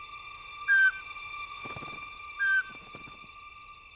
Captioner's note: bird calls